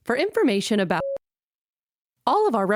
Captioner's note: beep